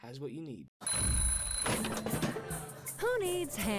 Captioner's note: alarm ringing